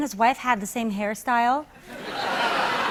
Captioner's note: laughter